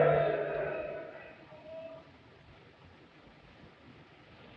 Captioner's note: all quieting down